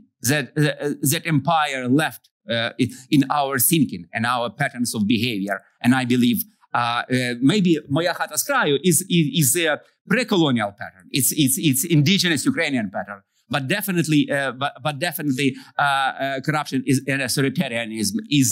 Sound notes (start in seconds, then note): 7.7 non-english